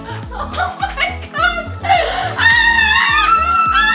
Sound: screams

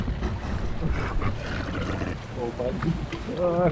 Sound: leopard seal snorts and grunts

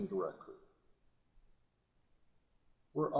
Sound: silence

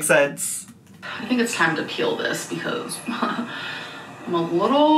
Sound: chuckles

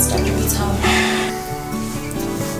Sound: sighs

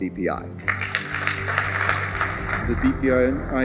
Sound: applause

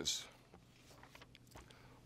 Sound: page turning

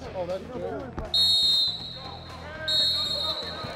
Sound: whistle

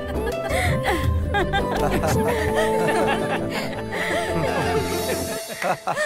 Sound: laughs

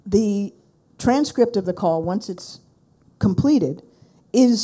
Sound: none

